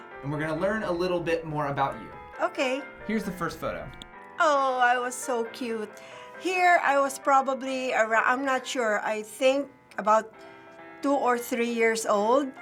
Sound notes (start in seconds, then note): 3.9 click